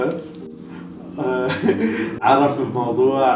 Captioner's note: laughing